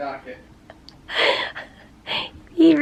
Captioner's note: chuckling